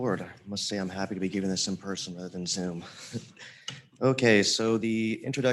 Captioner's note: chuckles